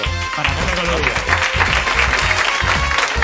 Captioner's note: applause